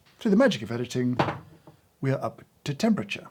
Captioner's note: hand thuds